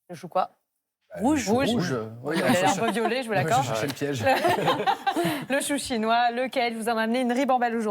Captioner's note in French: rires